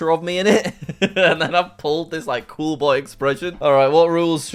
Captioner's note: laughs